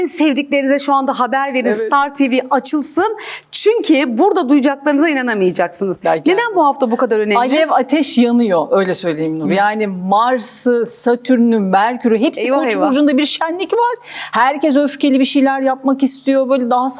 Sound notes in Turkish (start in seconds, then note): none